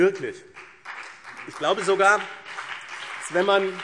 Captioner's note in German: Beifall BÜNDNIS 90/DIE GRÜNEN